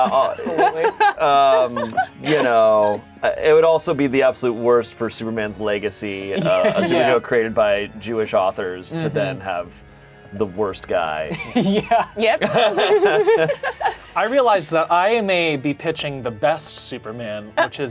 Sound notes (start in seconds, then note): 11.3 laughs; 12.9 all laughing